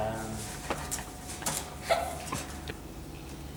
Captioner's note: Arnold and Sarah-Jane laugh